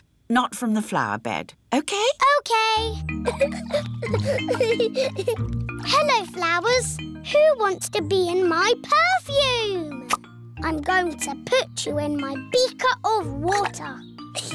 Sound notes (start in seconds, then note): 3.2 giggling